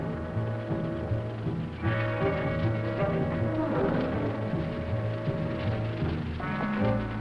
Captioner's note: birds chirping; plants rustling; animals groaning; tense music